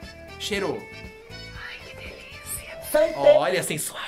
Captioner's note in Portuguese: Inês sussurra; sussurrando